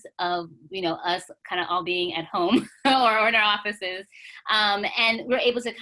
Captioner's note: chuckles